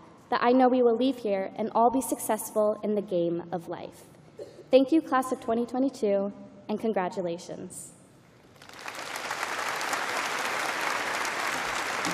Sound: applause

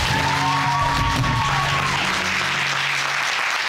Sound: audience cheering and applauding

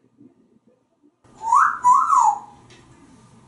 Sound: wolf whistling

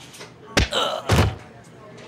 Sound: groaning

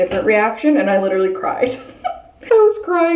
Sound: chuckling

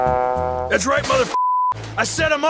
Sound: beep

